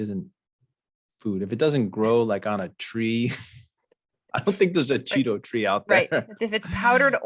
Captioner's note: chuckles